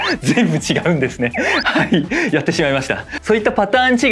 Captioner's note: laughs